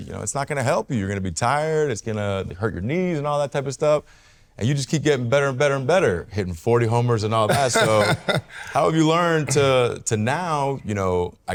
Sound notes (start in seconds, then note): 7.4 Salvy laughs